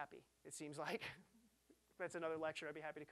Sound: chuckling

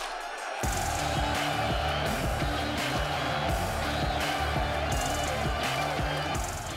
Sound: crowd cheering; upbeat music

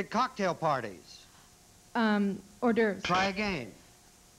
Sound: buzz buzz

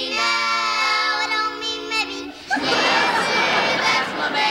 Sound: laughter

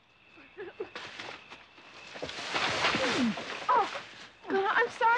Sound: tree rustling

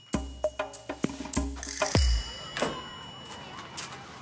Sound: bell dings

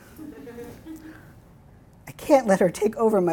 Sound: laughing

